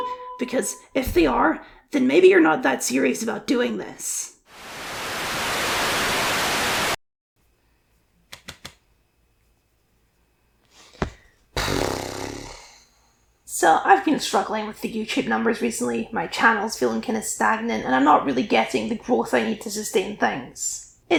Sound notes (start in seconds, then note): 4.6 Static; 11.6 sigh